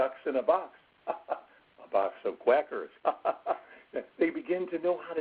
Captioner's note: laughs